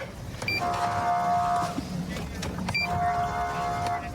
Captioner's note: horn blaring